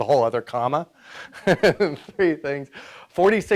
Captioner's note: laughs